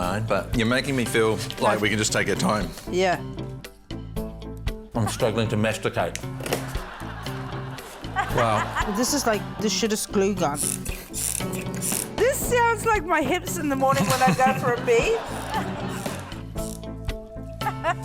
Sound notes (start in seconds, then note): 10.6 trigger squeaks; 17.1 snickers